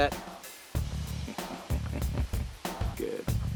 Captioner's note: chuckles